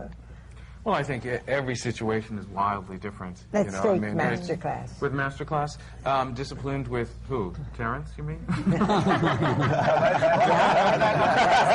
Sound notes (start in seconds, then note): 8.5 laughter